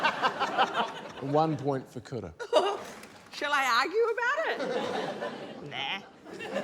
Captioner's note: laughter; giggles